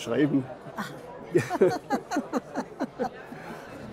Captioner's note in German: lachend; Beide lachen